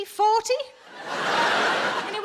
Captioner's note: audience laughing